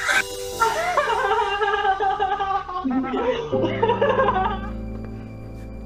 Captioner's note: sceptical laughter from guests